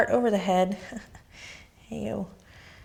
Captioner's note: laughs